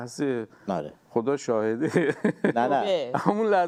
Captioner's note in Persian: خنده